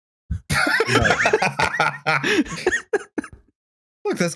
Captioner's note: laughter